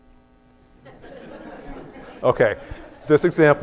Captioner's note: laughter